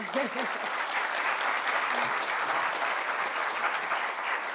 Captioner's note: applause